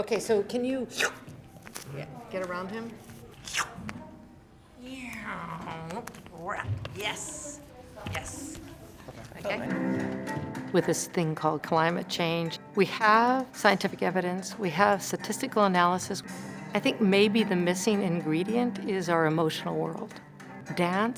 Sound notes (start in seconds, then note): 3.4 slurping; 9.5 dark cello music